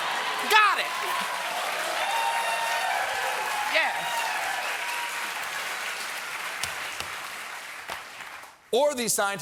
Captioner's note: cheers and applause